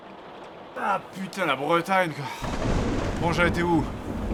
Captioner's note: thunderclap